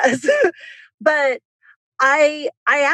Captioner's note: laughs